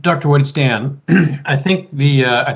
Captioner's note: clears throat